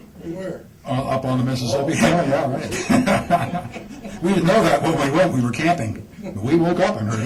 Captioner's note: laughs